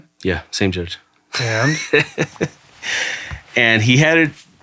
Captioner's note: laughing